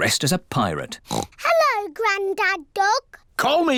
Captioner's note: oinks